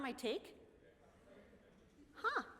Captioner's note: chatter